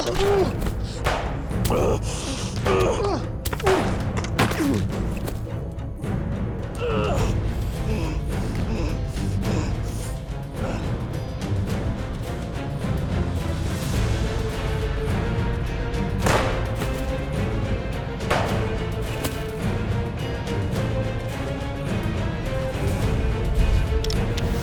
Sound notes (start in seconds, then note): 0.3 gunfire; 1.6 grunts; 6.7 billy groans; 7.0 breathing heavily; 16.2 gunshot; 18.2 gunshot